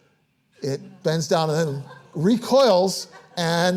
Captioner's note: audience laughing